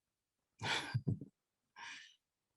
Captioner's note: laughter